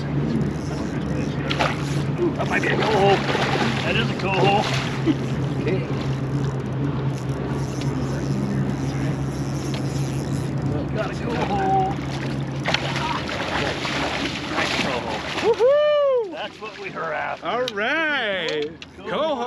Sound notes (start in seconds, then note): 0.0 reel spinning; 3.2 reel spinning; 4.6 fish splashing; 6.3 reel spinning; 13.1 fish splashing